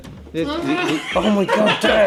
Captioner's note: laughing